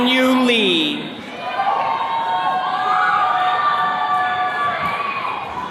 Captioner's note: attendees cheering